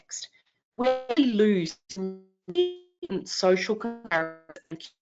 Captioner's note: audio cutting out